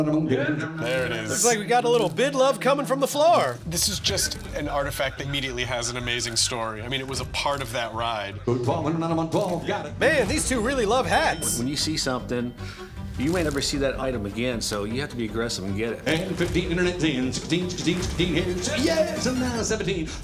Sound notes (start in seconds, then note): 0.0 rapid auctioneering; 8.4 rapid auctioneering; 16.5 rapid auctioneering